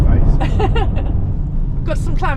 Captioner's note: laughs